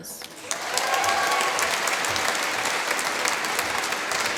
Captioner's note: applause